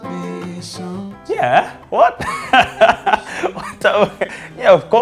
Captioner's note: laughs